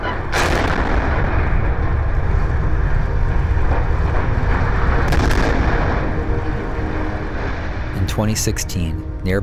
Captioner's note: explosion noises